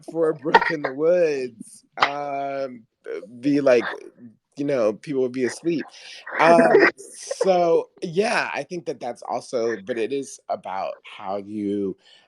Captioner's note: laughs